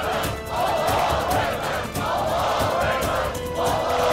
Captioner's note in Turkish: Hep bir ağızdan